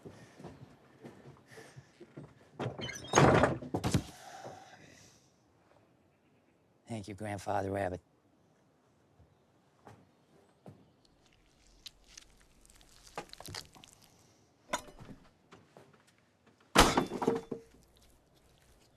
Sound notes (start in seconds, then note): 2.6 door closing; 11.0 squelching